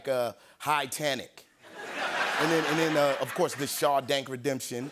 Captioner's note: laughter